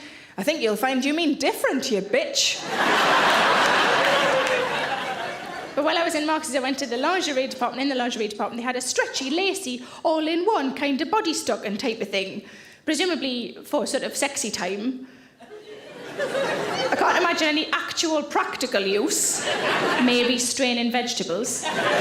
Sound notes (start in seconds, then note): 2.6 audience laughs